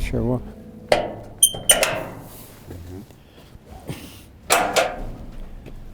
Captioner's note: opening gate